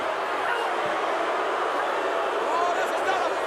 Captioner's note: crowd booing